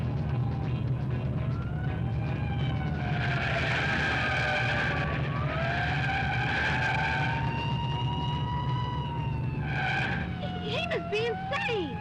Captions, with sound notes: (siren blaring) (tires screeching) - He must be insane!